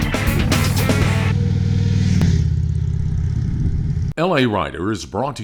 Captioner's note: motorcycle running